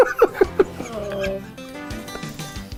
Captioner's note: soft groan of devastation